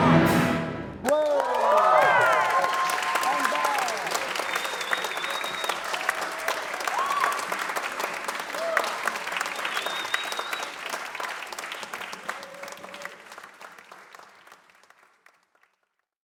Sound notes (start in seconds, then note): 1.0 applause